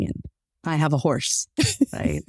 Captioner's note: laughs